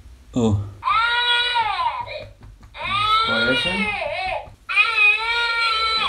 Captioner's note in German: Baby schreit